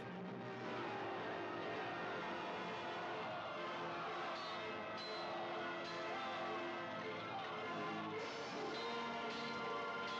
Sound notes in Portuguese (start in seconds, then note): none